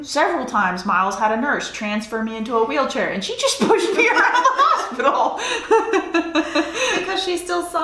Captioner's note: laughter